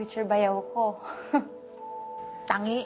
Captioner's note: chuckles